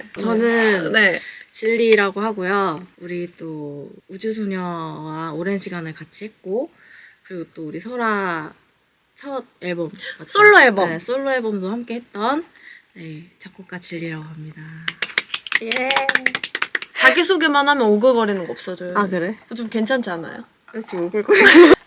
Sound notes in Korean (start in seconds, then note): 14.8 짝짝짝